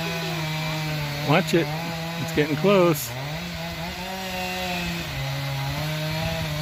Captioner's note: chainsaw